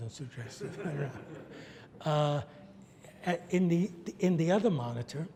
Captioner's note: audience laughs